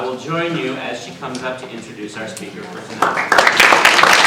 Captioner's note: applause